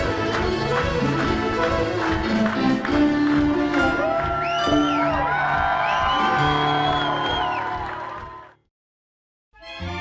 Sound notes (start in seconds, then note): 3.7 cheering